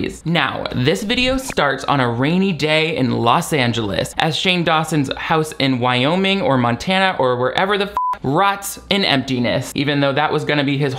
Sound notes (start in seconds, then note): 7.9 beep